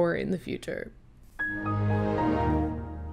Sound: microsoft windows xp shutting down sound effect

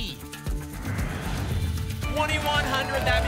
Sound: whoosh

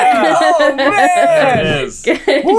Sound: laughs

